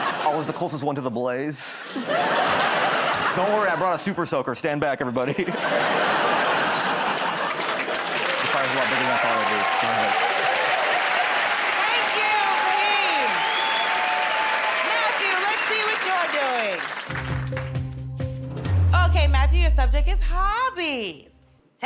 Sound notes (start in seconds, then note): 6.7 water hissing; 9.8 cheers and applause